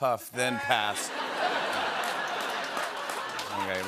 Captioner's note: laughter